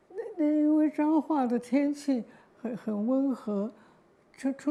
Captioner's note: Mandarin